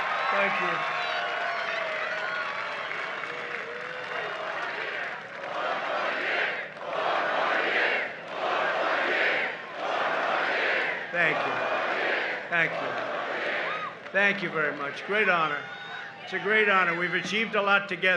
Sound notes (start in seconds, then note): 0.1 cheering and applause; 8.6 chanting